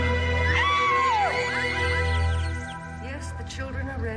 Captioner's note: Roslyn gasping over dramatic orchestral music; Roslyn shrieks